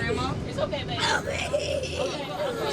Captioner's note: screams